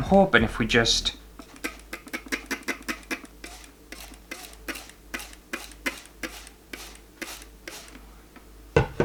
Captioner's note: water Bottle Spray Sounds